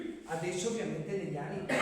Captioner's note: clears throat